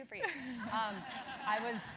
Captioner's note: laugh